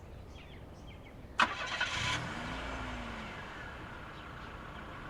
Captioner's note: engine revving